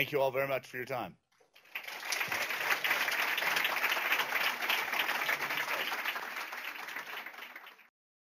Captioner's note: applause